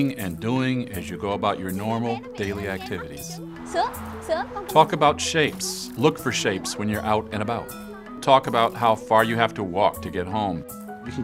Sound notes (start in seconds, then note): 3.7 speaks in foreign language